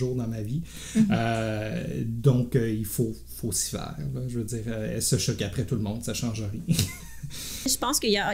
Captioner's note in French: rires